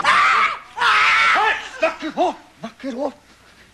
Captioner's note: screaming